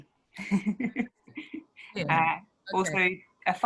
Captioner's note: laughing